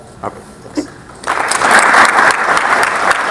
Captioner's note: audience applauding